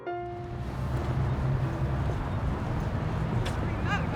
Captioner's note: birds chirping